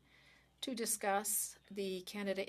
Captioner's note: speaking French